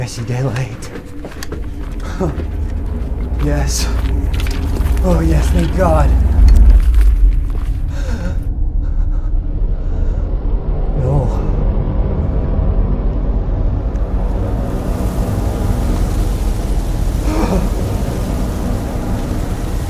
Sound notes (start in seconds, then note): 8.8 intense music; 15.7 wind blows